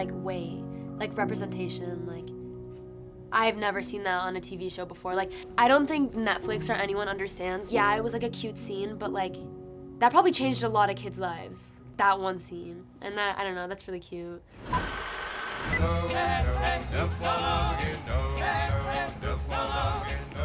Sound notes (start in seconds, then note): 14.9 film clicking; 15.7 upbeat '60s music